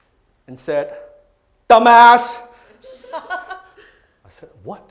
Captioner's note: crowd laughs